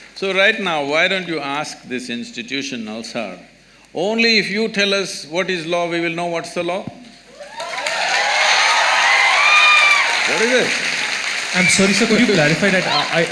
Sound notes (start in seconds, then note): 7.3 applause/Cheering